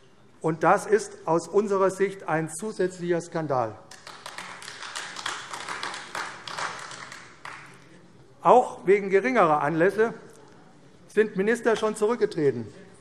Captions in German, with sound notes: Das ist aus unserer Sicht ein zusätzlicher Skandal. [Beifall AfD] Minister sind auch schon aus geringeren Anlässen zurückgetreten.